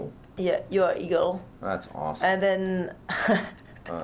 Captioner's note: laughs